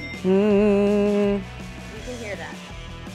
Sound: hums

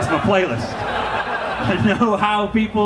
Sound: audience laughing

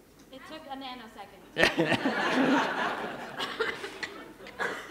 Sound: laughter

